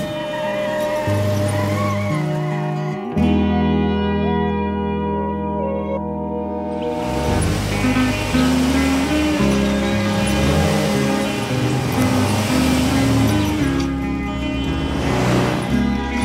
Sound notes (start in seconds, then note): 0.3 screeching; 7.5 engine roaring